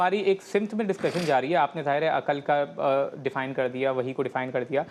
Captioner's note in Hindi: नाक से की जाने वाली आवाज़